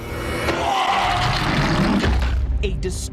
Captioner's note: growling